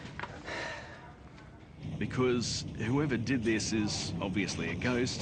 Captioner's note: exhales loudly